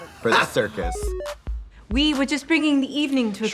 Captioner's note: Trixie cackles; musical flourish